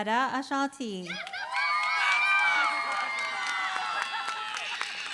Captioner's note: cheering, applause